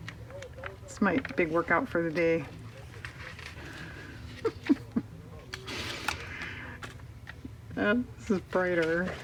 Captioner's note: laughs